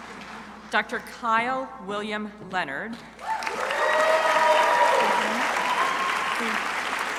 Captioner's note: crowd applauding